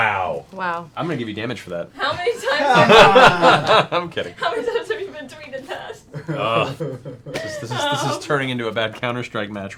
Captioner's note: laughs